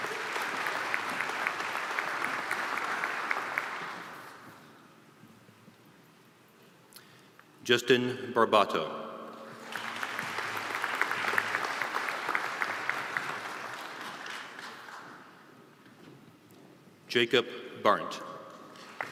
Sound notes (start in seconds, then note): 6.3 graduates walking